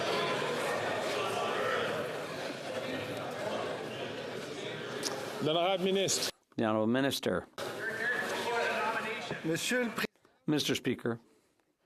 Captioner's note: chatter